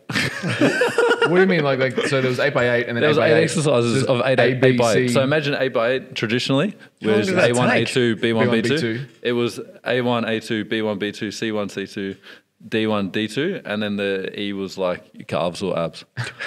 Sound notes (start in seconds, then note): 1.8 laughing